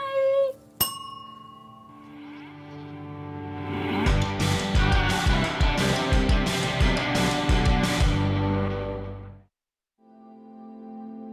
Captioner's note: bell chimes